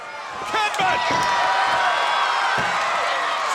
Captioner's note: crowd cheering